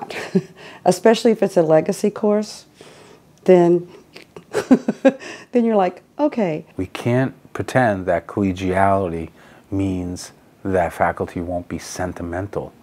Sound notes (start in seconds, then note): 4.1 laughs